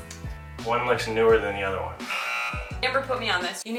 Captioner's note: buzzer